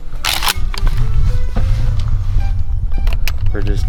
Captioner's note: gun clicking